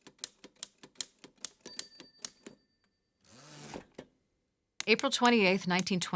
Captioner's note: typewriter keys